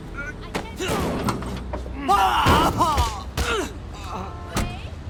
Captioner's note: pedestrian groans